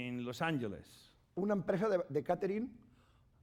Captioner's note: speaking spanish